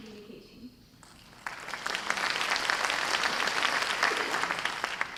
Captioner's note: audience applause